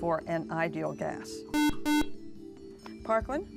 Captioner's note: buzzer